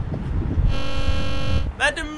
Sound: intercom buzzing

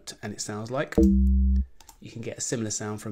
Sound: electronic tone

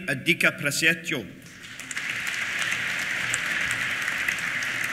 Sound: applause

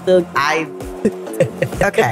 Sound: laughing

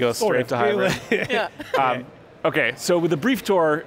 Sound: chuckles

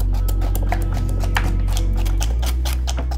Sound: chopping sound

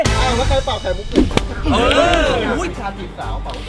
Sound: blows

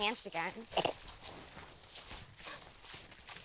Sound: chuckles

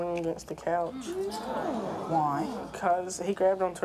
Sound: audience clamors

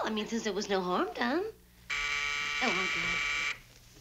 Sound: door buzzer

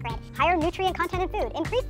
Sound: in sped-up voice

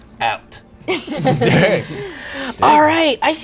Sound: laughter

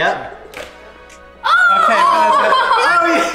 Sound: cheering

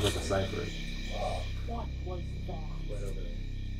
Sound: gasps

